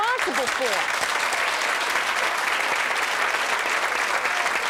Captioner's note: audience applauding